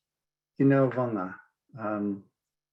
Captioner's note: speaking Inupiaq